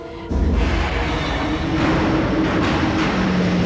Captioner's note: ship creaking